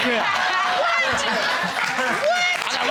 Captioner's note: laughter